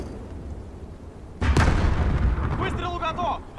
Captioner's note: sound of explosion